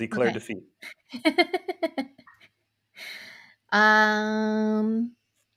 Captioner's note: laughing